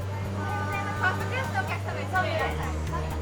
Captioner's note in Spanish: hablando en japonés